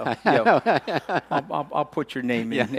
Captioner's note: laughing